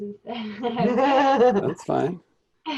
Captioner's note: ladies laughing